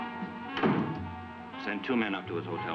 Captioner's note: door latching